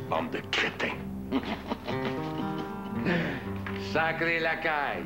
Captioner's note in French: Rire